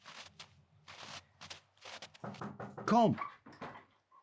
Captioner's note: footsteps, knocking